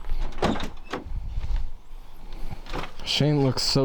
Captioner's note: tailgate clicks